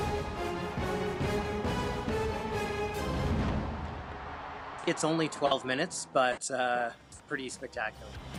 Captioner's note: cheers and Applause